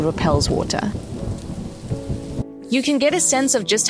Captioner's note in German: Donnergrollen